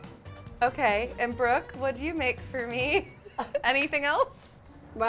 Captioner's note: laughs